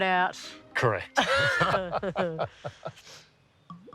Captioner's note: both laugh